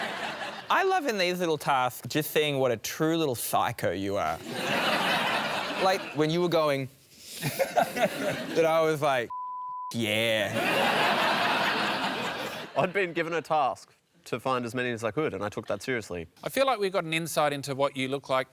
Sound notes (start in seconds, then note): 7.8 breathes sharply; 10.5 laughter